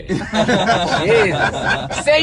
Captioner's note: laughing